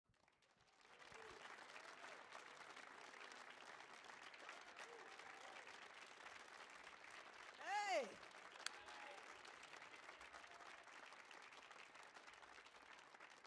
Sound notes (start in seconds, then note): 0.0 people clapping; 9.5 people clapping